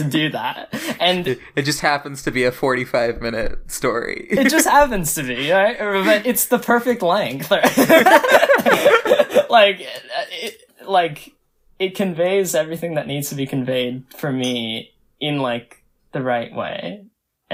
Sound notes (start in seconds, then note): 4.3 laughs; 7.6 both laugh